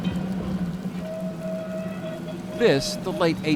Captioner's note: horn beeping